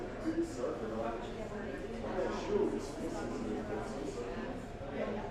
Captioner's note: large crowd chatter